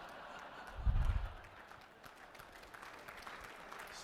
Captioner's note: pause